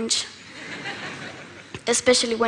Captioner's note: Laughter; 笑聲